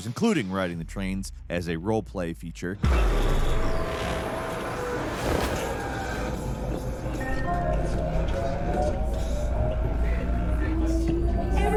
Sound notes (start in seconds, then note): 2.9 train revs; 3.2 people chattering